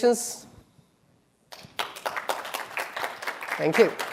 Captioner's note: applause